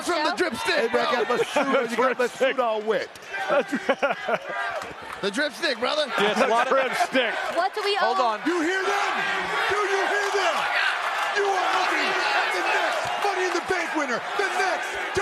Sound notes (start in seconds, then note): 6.2 laughter